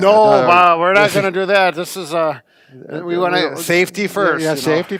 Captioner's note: laughs